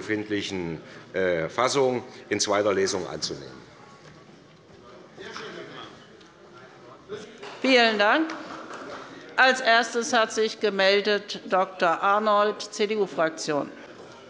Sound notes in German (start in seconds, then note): 3.7 Beifall des Abg